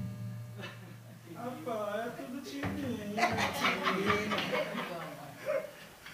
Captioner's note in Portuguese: risos